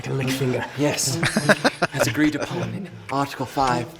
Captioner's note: laughing